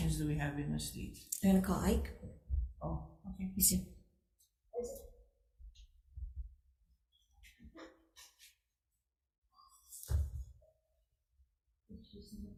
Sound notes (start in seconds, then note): 3.2 crowd members whispering